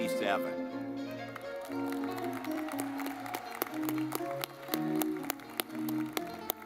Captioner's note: lively music; audience clapping